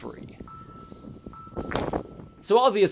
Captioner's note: echoey footstep